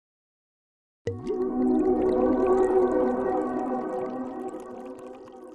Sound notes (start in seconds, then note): 1.1 wine pouring